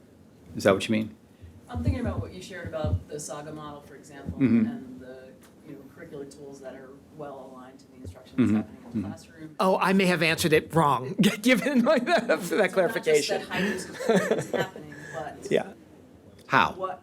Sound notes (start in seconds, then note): 11.1 laughs